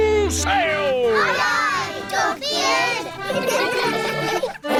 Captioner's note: giggling